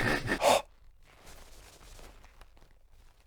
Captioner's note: polishing noises